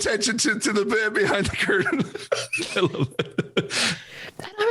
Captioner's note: laughs